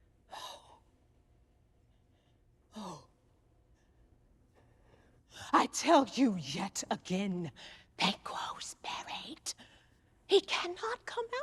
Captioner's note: whispering